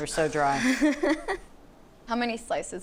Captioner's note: laughs